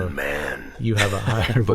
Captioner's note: impersonating deep voice